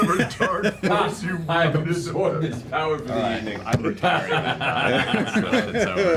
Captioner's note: cackles